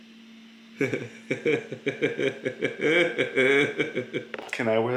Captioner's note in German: lacht